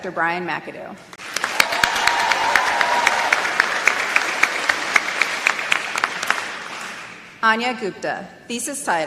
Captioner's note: applause